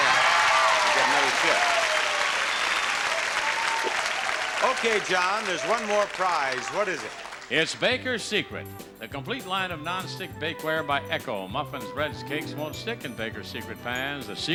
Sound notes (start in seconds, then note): 2.0 audience cheering and applauding